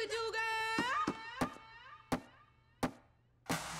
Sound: rhythmic thunking

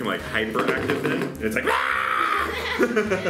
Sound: yelling; laughing

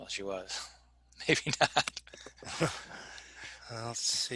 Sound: laughing

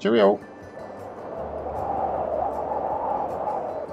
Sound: air whooshing

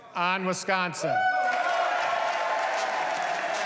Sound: applause

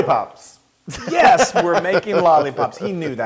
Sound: laugh

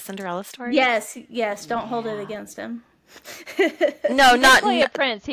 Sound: laughter

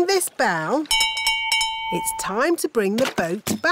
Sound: bell rings

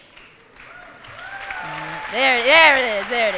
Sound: applause

